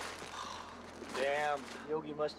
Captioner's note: sighs